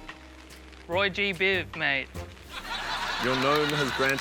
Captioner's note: laughter